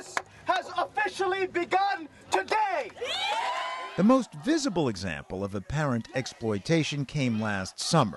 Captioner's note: cheering and applause